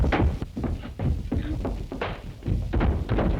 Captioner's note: sounds of fighting